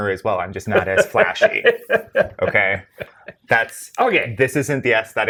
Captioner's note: guy laughs